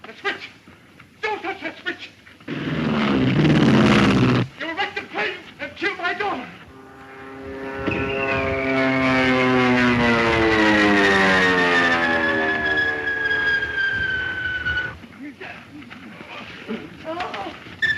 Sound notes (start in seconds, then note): 8.7 engine roaring; 8.7 plane whistling